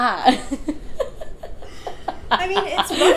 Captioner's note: both laughing